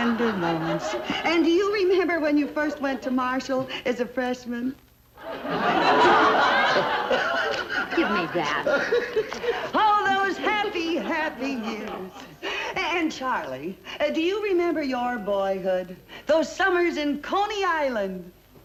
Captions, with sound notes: - Yes, yes memories, memories. And do you remember when you first went to Marshall as a freshman? (loud laughter) - Give me that. - All those happy, happy years. And Charlie, do you remember your boyhood? Those summers in Coney island?